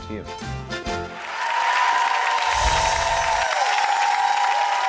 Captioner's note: audience applauds